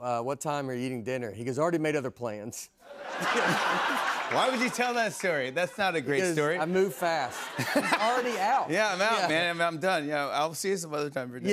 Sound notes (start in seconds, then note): 2.9 laughter